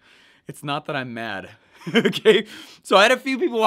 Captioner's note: laughing